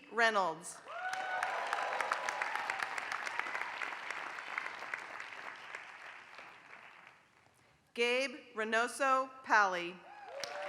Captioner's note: applause; applause